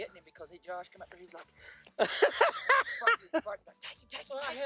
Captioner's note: laughter